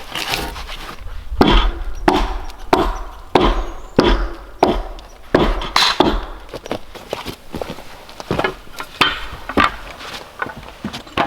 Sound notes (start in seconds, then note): 1.3 axe thudding